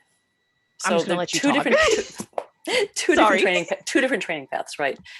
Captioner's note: chuckles